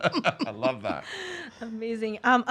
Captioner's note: laughs